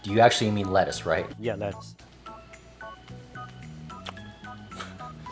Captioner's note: both laugh